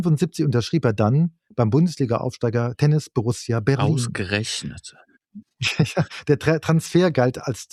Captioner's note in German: gelächter